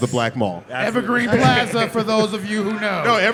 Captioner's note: laughter